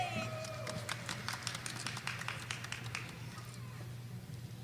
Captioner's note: audience applauding